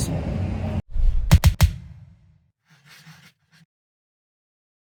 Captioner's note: pencil scribbling